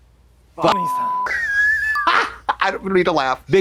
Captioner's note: beep; Trixie squawks